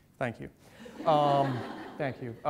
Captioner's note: audience laughs